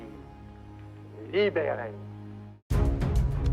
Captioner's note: speaks French